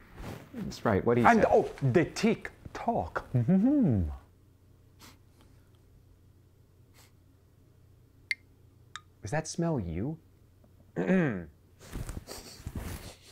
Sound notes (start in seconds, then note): 4.3 sniffing; 12.2 sniffing